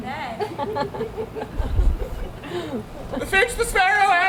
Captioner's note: audience laughs